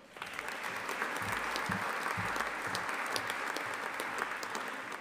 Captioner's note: audience applauding